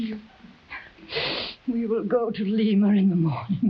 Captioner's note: Marquesa cries